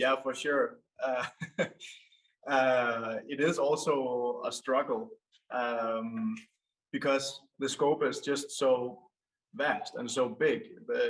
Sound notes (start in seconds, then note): 1.0 chuckles